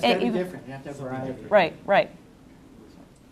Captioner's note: audience murmurs